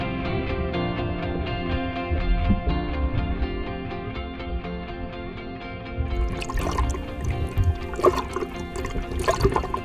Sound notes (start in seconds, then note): 6.1 water trickling